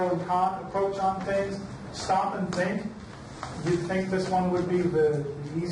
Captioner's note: none